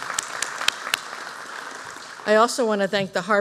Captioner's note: applause